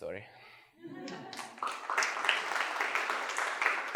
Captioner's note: applause